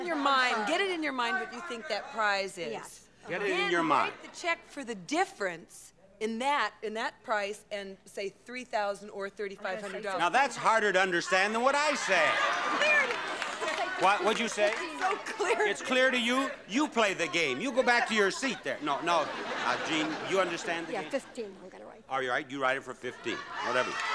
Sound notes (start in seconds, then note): 12.8 audience laughing; 19.0 audience laughing; 23.2 audience shouting